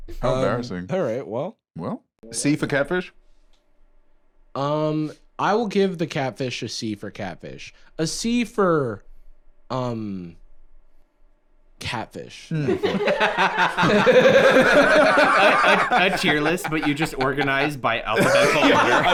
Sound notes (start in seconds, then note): 12.6 all laughing